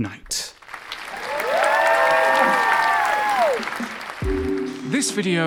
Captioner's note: audience applauds